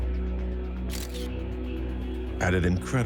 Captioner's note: camera flashing